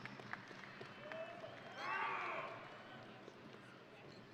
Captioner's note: audience applauding